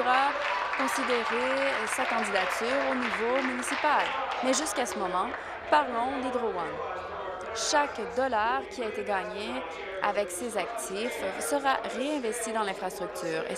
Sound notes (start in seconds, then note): 4.5 applause